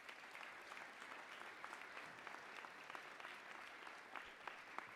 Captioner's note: applause